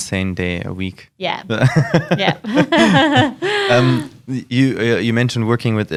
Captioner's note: laughs